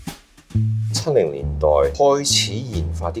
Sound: Cantonese

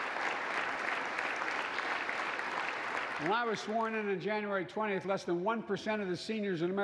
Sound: applause

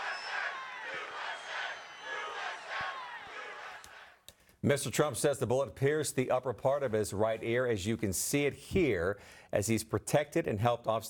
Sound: audience chanting "usa"

